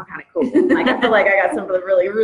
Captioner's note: laughs